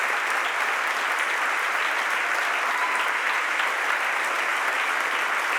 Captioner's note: audience applauds and cheers continues